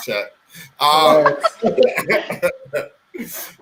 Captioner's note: laughing